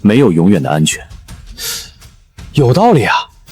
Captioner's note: sigh